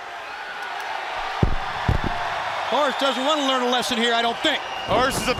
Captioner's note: crowd cheering